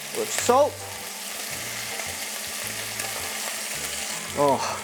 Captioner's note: sizzling sound